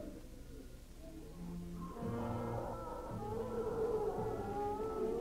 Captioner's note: creature growling